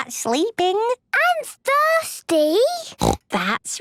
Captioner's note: snorts